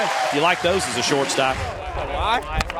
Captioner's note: voiceover